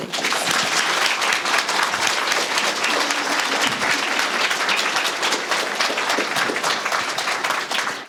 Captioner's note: applause